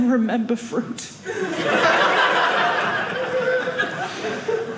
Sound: audience laughing

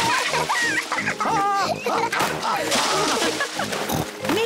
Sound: laughs

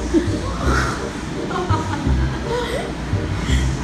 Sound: laughing again

